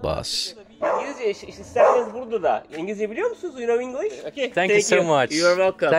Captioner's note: conversation in Turkish